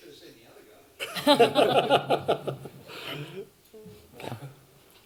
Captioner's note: laughter